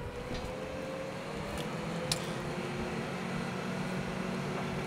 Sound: truck motor whirring

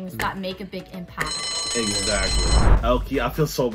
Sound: bell rings

